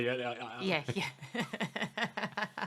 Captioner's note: laughing